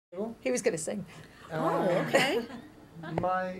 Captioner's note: laughter